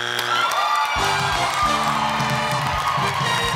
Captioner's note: cheering and applause